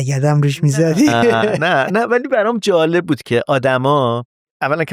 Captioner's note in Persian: خنده